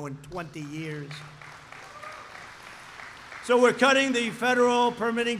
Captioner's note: applause